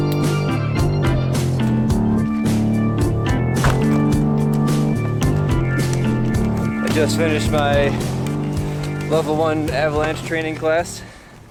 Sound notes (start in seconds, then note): 3.5 car door closes; 5.4 footsteps in snow